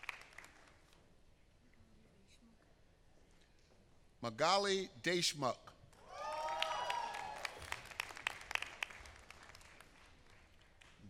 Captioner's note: applause